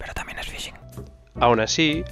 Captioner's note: whisper